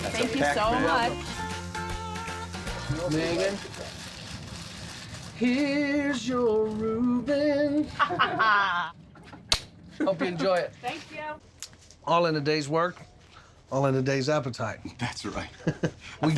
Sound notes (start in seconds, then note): 7.9 laughter